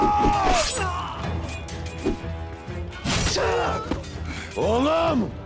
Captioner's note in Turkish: Kılıç ve dövüş sesleri